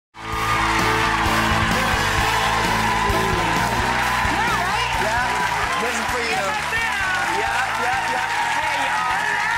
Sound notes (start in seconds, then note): 0.2 audience applauding; 0.2 lively music